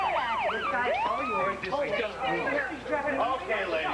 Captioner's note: sirens